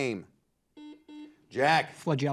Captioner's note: buzzer beeping